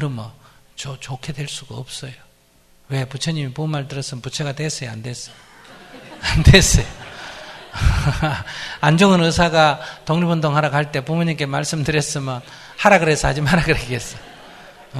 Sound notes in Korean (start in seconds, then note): 5.4 스님 웃음; 7.8 청중 웃음